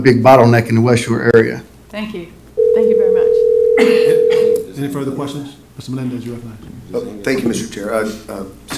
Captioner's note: phone ringing